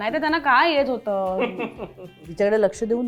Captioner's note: chuckles